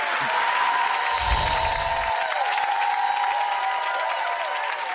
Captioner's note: audience applauds; bells chime